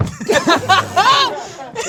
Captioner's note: group laughs